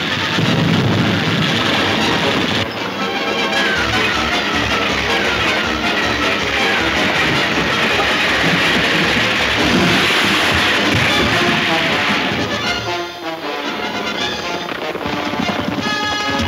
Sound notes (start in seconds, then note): 0.3 hooves thundering; 9.0 water splashing; 10.5 wagon crashing; 13.3 hooves thundering